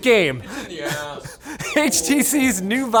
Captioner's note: men laughing